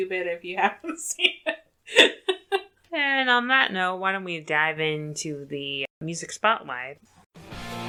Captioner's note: laughs; transition music plays